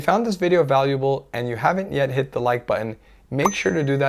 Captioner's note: bell chimes